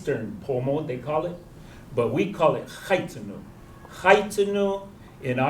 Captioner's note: non-english